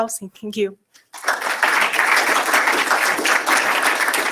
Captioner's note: applause